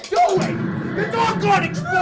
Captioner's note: boom